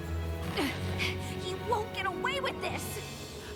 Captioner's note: grunts